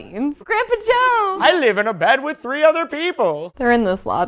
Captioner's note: old man voice